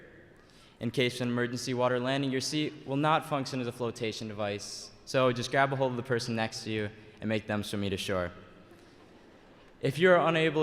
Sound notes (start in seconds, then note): none